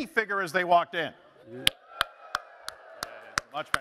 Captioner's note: applause